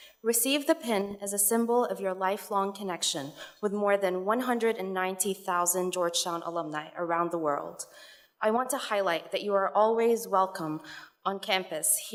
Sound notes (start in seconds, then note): none